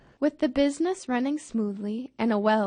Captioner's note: voiceover